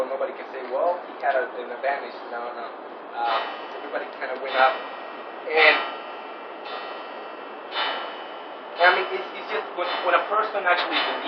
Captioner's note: kilise çanı